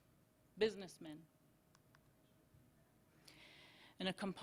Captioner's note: silence